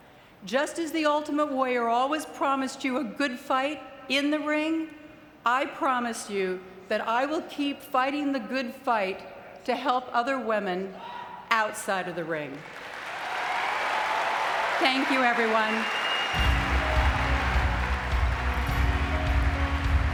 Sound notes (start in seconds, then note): 12.5 audience clapping; 16.2 upbeat music